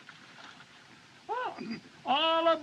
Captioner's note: clears Throat